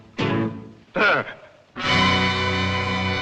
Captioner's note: gasps